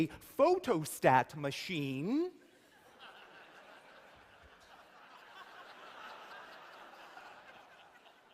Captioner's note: laughter